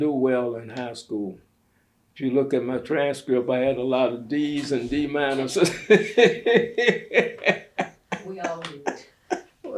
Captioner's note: laughs